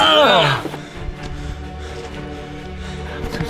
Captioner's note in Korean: 들숨 날숨 들숨 날숨 들숨 날숨